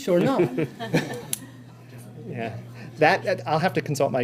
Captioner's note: laughter